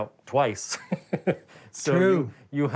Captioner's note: laughs